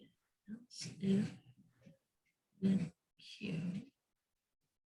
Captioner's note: muttering